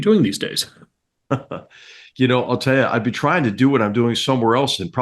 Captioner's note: laugh